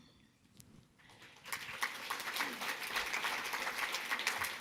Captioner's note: audience clapping